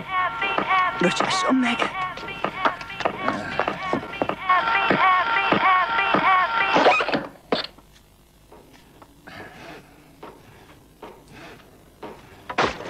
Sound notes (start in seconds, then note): 0.1 record skipping; 6.6 music stops; 6.6 screeching